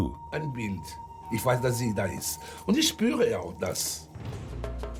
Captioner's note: speaks in German